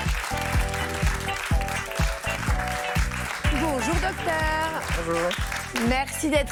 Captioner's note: applause